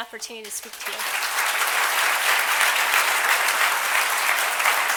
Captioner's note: applause